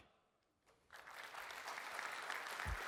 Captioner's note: applause